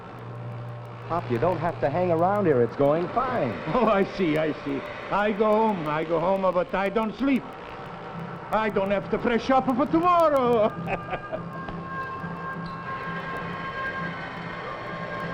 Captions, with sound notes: Pop, you don't have to hang around here. It's going fine. - Oh, I see, I see. I go home, I go home, but I don't sleep. I don't have to fresh up for tomorrow (laughs). (suspenseful music)